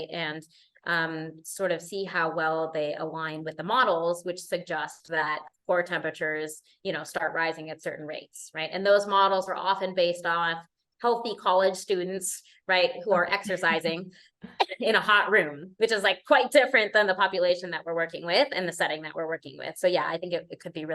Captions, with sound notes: And um, sort of see how well they align with the models which suggests that core temperatures, you know, start rising at certain rates. And those models are often based on healthy college students, right, who are exercising [LAUGHTER] in a hot room, which is like quite different than the population that we're working with and the setting that we're working with. So yeah, I think it- it could be